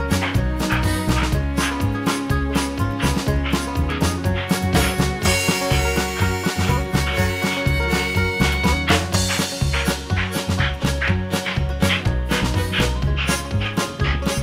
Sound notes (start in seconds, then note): 0.1 upbeat music; 7.8 train whistling